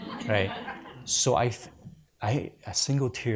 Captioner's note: audience laughs